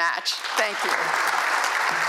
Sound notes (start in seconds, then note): 0.3 applause